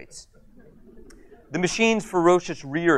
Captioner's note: audience chuckles